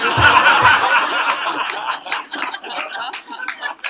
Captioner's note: laugh